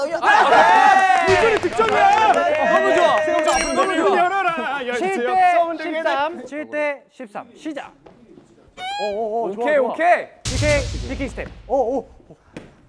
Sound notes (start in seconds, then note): 10.4 blast burst shoot